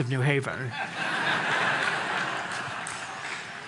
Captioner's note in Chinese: Laughter; 笑聲